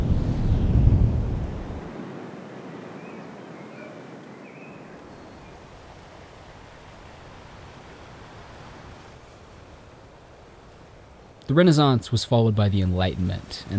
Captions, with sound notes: (birds chirping) The Renaissance was followed by the Enlightenment,